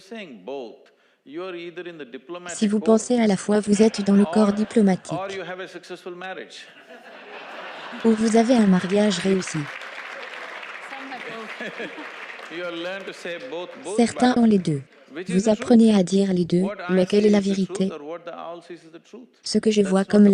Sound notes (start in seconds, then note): 6.9 audience applauds